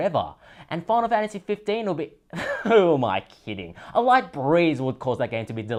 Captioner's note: laugh